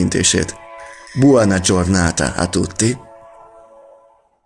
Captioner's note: in Italian